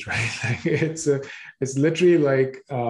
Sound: both chuckling

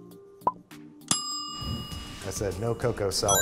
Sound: timer dings; bright chime sounds

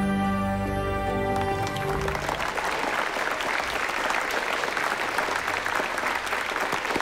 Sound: applause

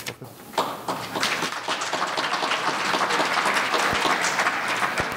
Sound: audience applauding

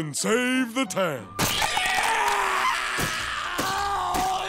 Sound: screaming

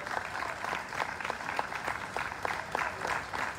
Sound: applause

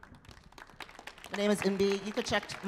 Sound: audience claps

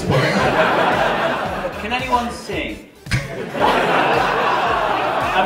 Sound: laughter

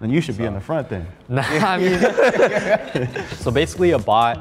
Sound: group laughs

